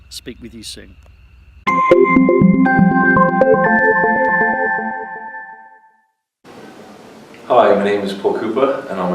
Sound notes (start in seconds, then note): 1.7 bells chiming